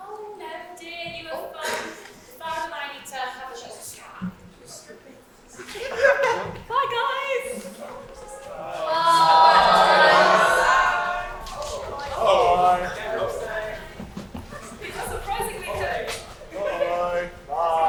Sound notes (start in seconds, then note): 8.6 audience say bye